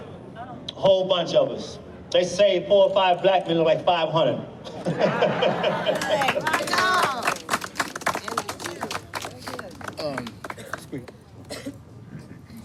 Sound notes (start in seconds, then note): 4.9 chuckles; 5.8 crowd clapping